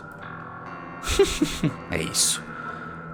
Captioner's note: laughs